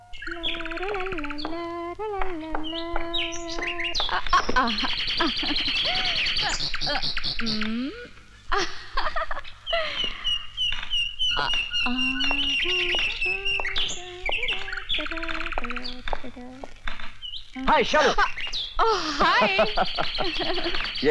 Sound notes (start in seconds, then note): 0.0 humming; 8.4 laughs; 13.2 humming; 18.8 laughs